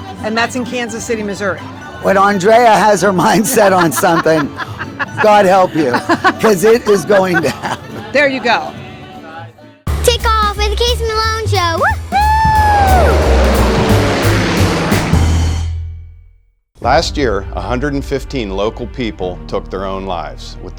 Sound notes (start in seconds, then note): 3.4 laughing; 13.0 plane engine rumbling